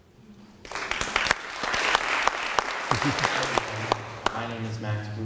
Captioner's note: applause